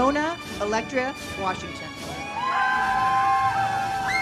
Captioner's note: audience cheers; uplifting music